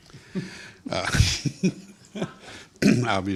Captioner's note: group laughter